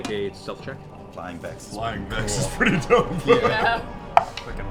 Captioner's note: laughs